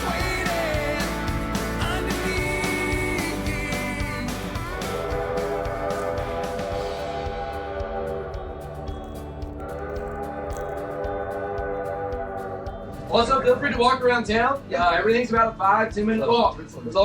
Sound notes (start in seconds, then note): 4.9 train whistle howling; 9.9 train whistle howling